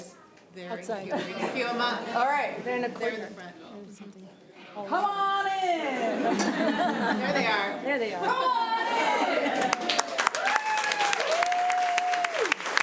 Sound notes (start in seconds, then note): 9.5 applause